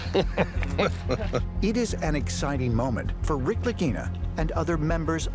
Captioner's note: laughter